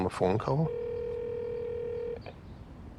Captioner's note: line ringing